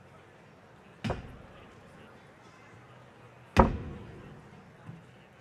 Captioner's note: cane thumping echoes